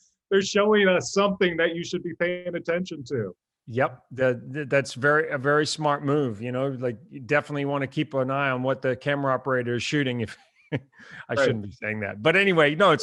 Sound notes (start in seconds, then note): 9.5 laughs